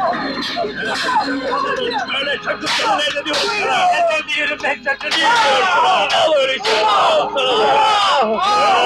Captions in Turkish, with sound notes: [Bağırışlar, inlemeler, silah sesleri, itiraz sesleri] Al öyleyse, al.. all!